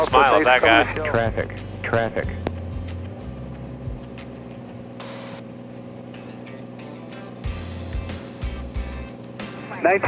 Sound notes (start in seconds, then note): 1.6 electronic Voice; 7.1 upbeat music